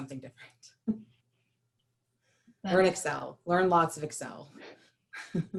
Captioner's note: laughter